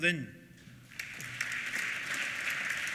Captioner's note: applause